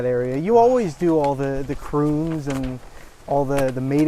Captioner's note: stoke sighs